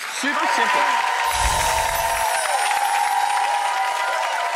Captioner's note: applause and cheering